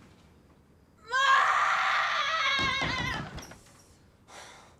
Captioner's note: screams